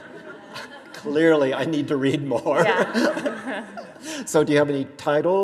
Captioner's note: audience laughter; laughs